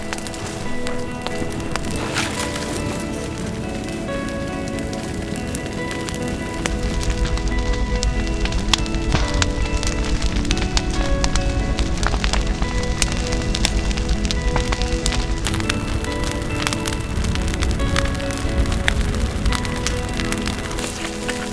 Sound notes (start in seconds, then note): 0.0 hiss as fusee lights, along with crackling fire and background music; 0.0 sound of footsteps on dried vegetation, crackling fire, and background music; 4.1 crackling fire and background music